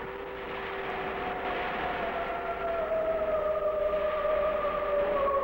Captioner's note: siren wailing